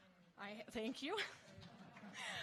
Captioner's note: scattered applauding; chuckles